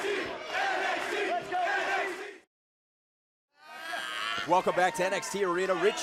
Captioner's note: crowd cheering